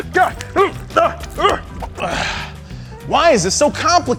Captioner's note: groaning